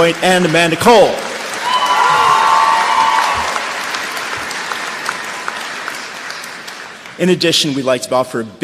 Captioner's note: cheers and applause